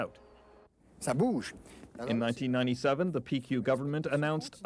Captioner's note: man speaking French